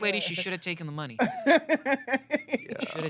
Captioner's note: laughs